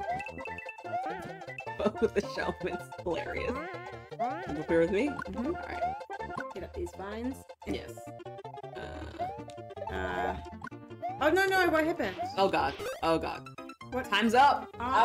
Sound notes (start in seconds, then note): 1.8 laughs